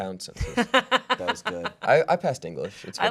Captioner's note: laughing